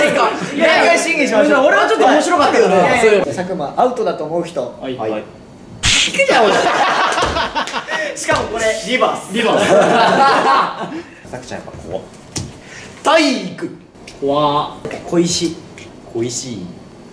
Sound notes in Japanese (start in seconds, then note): 6.2 スタッフ：爆笑